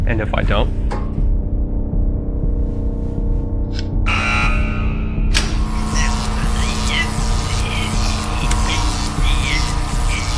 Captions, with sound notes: - And if I don't? (loud buzzing) (electric buzzing)